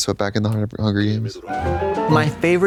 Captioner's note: bright chime